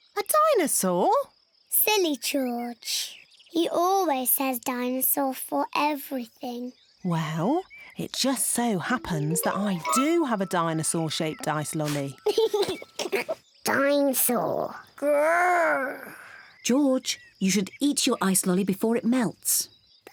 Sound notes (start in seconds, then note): 11.8 giggles excitedly